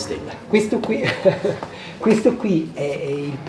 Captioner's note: laughs